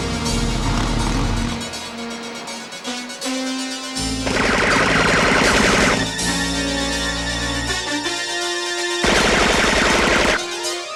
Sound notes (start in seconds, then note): 4.2 gun firing